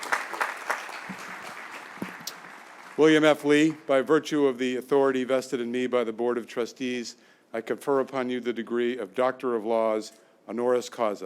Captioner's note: applause